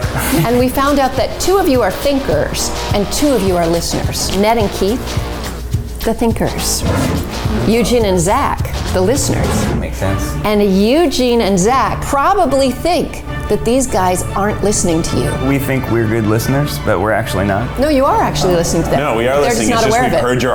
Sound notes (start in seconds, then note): 6.6 air whooshing